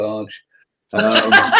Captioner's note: laughter